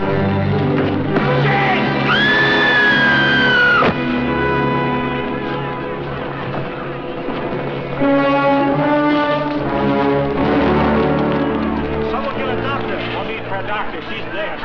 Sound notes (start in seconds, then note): 2.0 Jane screams; 2.8 loud thud